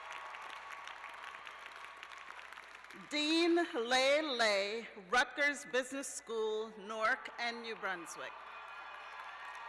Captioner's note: cheers and applause